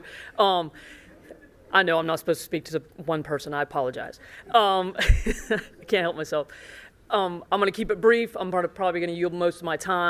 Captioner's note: laughter